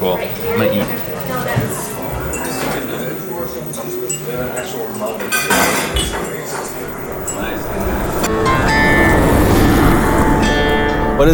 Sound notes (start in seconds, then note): 2.0 cutlery clanging; 2.0 people chattering; 5.8 mugs tinkling; 8.2 mid-tempo country music; 9.2 car engine humming